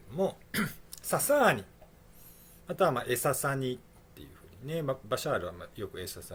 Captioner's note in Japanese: 咳払い